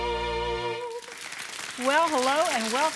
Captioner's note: applause